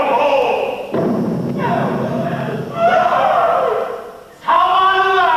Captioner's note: Cannon boom! Abe cries in terror